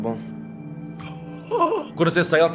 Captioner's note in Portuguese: Grunhido